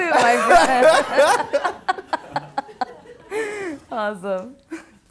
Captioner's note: laughing